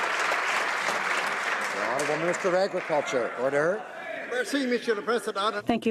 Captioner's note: some Applause